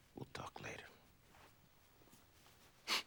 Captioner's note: whispers